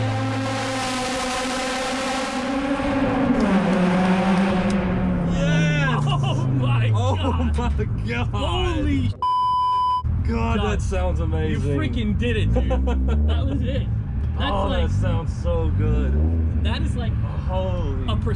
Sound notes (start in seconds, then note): 0.0 car engine roaring; 0.2 hands clapping; 9.2 beep